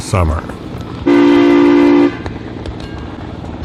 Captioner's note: sound of train horn